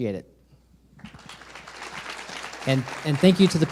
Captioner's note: audience applauds